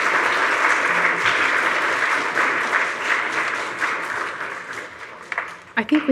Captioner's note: audience applauds